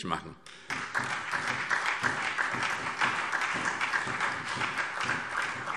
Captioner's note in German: Beifall SPD und DIE LINKE